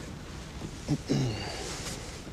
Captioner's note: clears throat